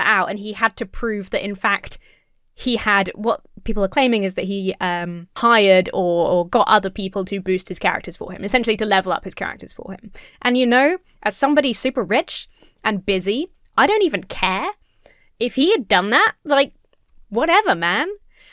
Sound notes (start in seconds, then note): none